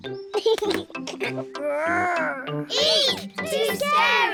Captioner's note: giggles